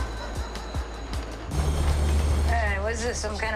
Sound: distant laughter; train car screeching

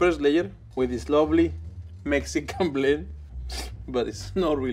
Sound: laughs

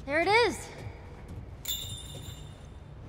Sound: indication chime

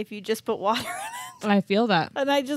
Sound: chuckles

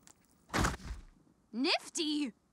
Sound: Adam thuds

